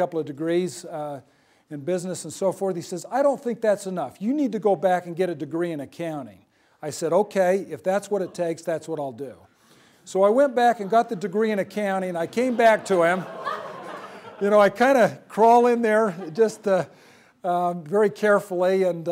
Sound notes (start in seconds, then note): 12.2 laughter